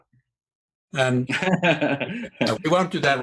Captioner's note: laughing